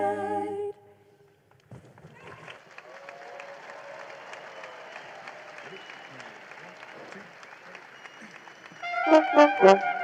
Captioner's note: applause